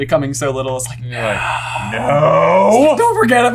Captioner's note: whisper